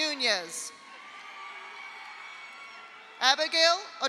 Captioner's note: audience applauds; audience cheers